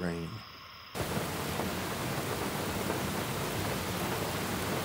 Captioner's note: Rain Falling